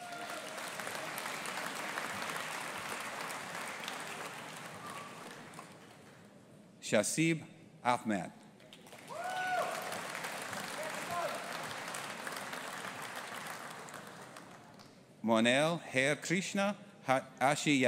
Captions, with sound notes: (AUDIENCE APPLAUDING) Shazeab Ahmad. (AUDIENCE APPLAUDING) Monaal Harekrishna Ashiyani.